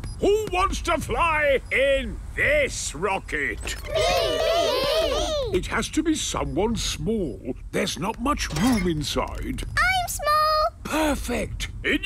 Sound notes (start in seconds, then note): 3.7 calling out in turn